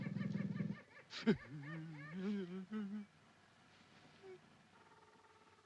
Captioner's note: Buldeo whimpers